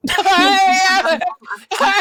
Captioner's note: laughing